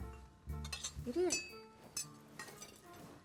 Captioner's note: tools clinking